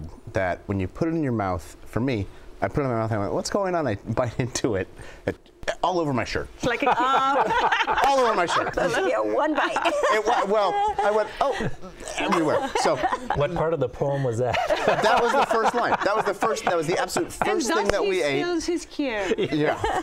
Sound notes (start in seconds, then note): 6.7 laughter